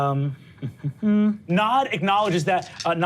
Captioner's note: hums